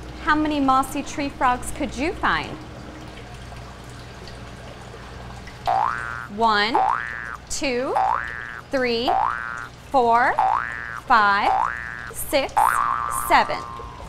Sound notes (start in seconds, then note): 10.0 numbers boing